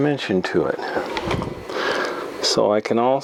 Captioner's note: sound of moving camera around